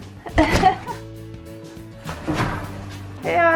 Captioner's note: laughs